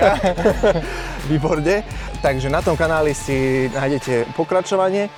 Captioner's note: laughs